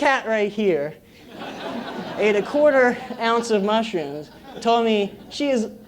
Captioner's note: laugh